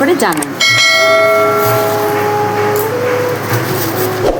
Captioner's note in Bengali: ঘণ্টা